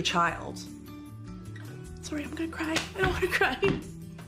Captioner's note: voice breaking